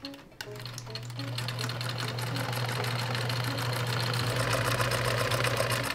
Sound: sewing machine revving

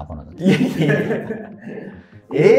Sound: laughing

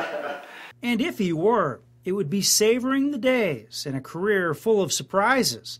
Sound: laughter

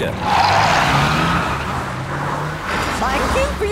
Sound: tires screeching

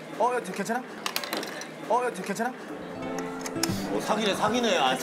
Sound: clattering

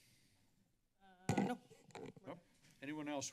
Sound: mic noise

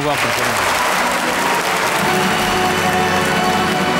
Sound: audience applauds

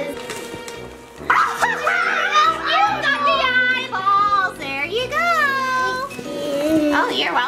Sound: laughs

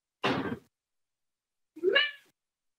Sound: door bangs

